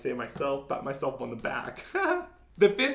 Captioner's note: laughing